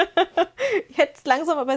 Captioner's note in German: gelächter